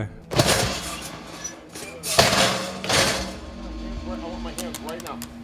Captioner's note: mechanical squeaking